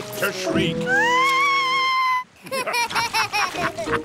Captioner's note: shrieks; laughter